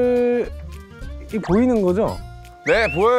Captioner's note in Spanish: nervioso